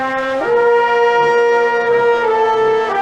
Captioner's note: none